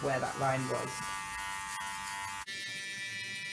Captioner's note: buzzing